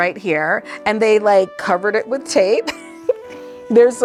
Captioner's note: chuckles